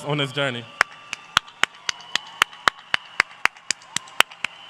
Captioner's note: claps